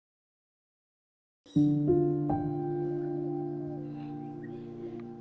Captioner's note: somber music; birds chirping